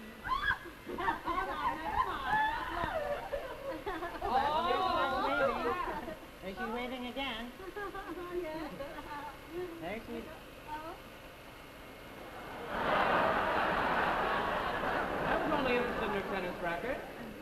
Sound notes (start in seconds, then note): 0.1 women shriek and laugh; 4.1 women ooh and ah; 8.1 Gurney giggles; 12.3 audience laughs